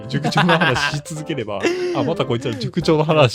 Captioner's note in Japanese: 笑い